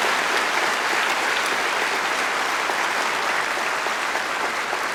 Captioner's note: applause